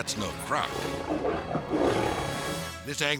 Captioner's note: gator growling